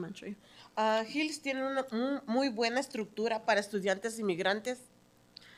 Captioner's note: speaking in Spanish